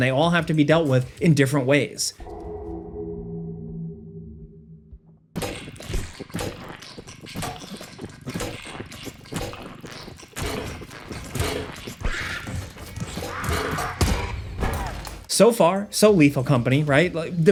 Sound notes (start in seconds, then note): 2.2 pensive music; 5.9 goo squelching; 13.1 monster sqauwking